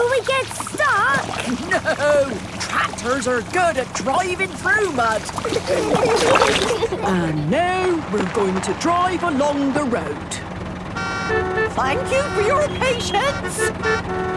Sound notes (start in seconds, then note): 6.1 giggling; 10.7 cars honking